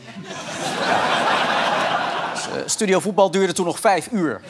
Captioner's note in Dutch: gelach